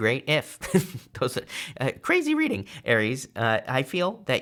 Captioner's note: chuckles